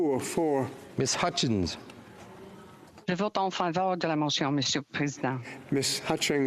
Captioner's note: speaking FRENCH